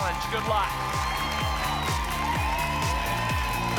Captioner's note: applause and cheering cont